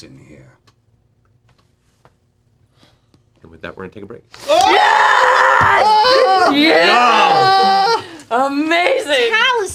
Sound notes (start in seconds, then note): 4.4 screaming